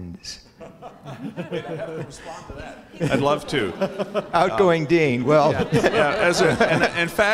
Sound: laugh

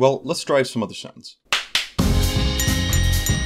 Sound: clap clap; music and dings

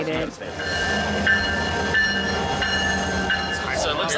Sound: train bell rings

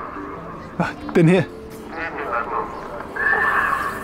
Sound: loudspeaker

